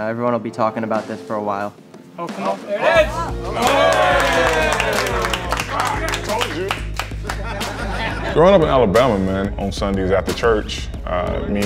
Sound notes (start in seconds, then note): 7.2 everyone laughing